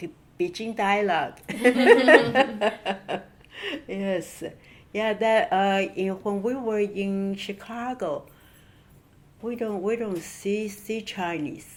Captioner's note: laugh